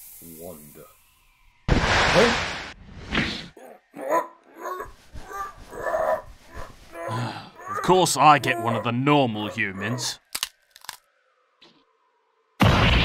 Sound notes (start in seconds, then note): 1.6 sand dune erupts; 3.5 CHINPO chokes; 6.8 BIDO sighs; 10.7 neck snap